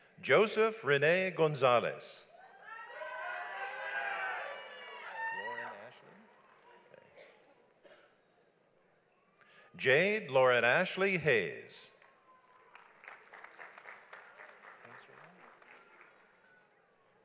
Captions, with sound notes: Joseph Rene Gonzales. (audience applauds) Lauryn-Ashlee? Jade Lauryn-Ashlee Hayes. (audience applauds)